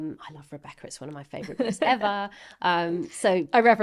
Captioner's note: laughing